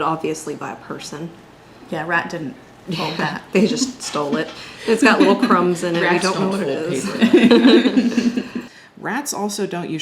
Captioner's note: everyone continues to chuckle